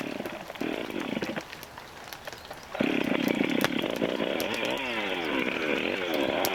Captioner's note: starting chainsaw sound